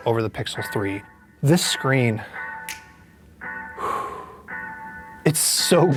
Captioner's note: sighs contentedly